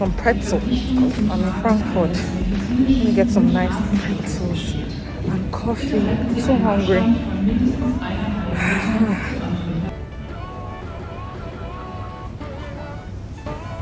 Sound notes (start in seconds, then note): 8.3 yawns; 11.1 upbeat music